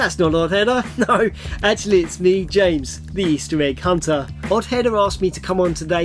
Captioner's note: laughing